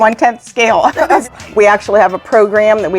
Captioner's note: giggling